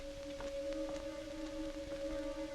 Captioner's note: none